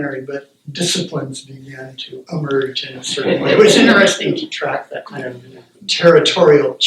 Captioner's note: laughter